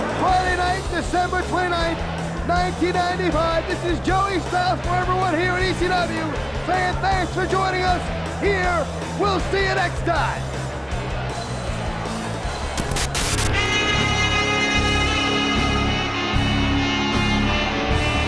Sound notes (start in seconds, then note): 10.7 upbeat music; 12.8 static crackling; 13.8 high-energy instrumental music